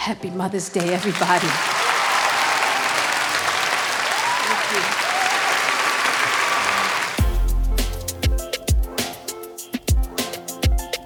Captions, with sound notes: Happy Mother's Day everybody. (audience applauding) (audience cheering) Thank you. (upbeat ambient music)